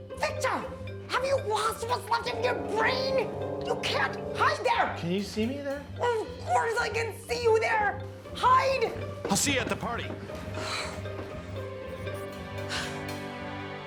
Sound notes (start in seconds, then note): 10.4 exhales; 11.6 light music